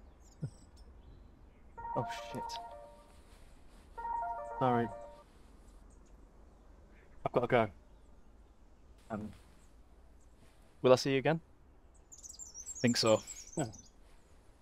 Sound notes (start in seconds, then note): 4.0 phone rings